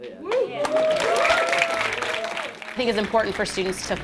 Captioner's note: applause